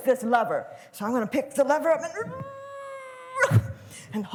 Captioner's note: grunting